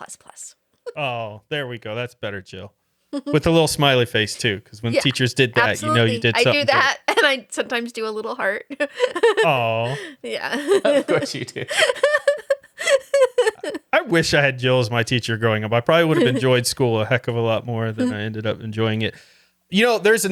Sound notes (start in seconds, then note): 11.7 laughing